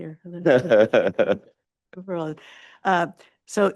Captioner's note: laughs